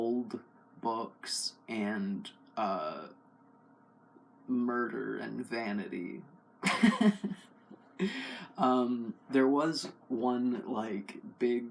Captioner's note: laugh